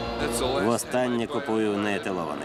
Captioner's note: whistling